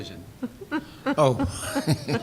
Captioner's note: laughter